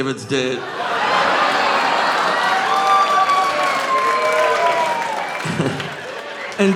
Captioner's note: audience laughing; audience cheering